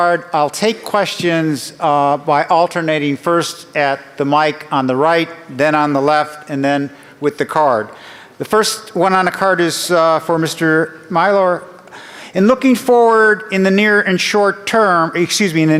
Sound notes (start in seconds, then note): none